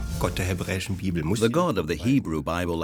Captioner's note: speaking German